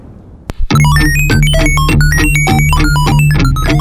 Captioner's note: strange 8-bit sounds; intense music